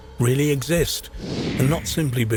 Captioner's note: air whooshing